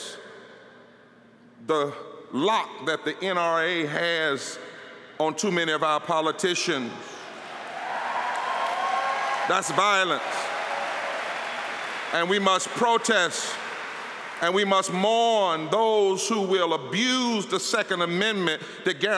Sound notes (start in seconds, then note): 11.7 applause